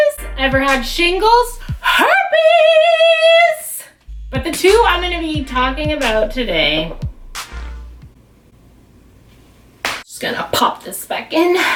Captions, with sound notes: Ever had shingles? HERPES!!!! But the two I'm going to be talking about today... *slaps thighs* I'm just gonna pop this back in...